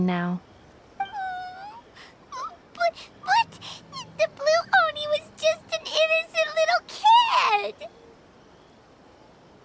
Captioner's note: sobs